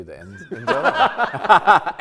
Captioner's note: everyone laughs